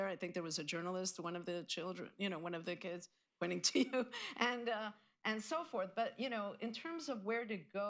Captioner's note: laughs